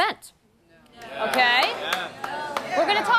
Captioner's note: audience calls out answers